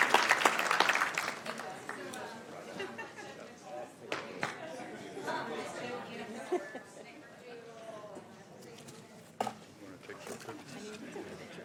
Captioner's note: applauding